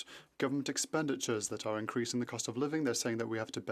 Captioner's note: speaking French